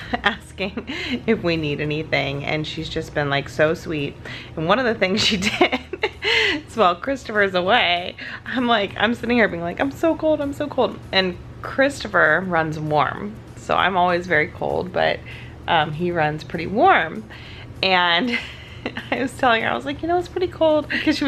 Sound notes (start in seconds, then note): 5.3 laughs